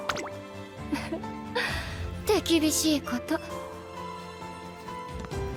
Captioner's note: giggle